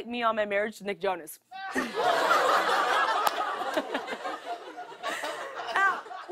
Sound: audience "Ohs"; laughter

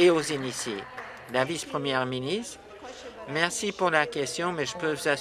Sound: applause

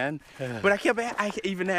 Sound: sighs

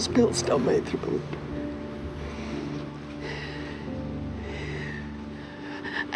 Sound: sighs

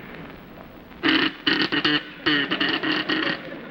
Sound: tooting

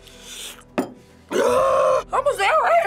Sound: screams

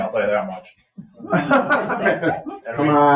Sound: people laugh

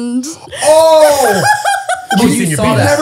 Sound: laughing

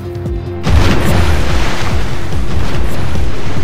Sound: gunfire; dramatic music

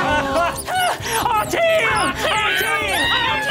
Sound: screams

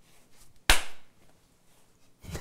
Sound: clap

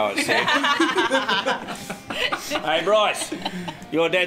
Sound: all laughing

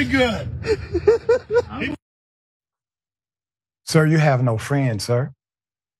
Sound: laugh

